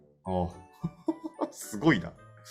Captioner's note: laugh